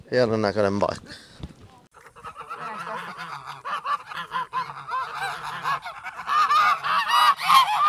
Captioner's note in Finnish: Kanat kotkottaa